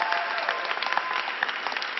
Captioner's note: applause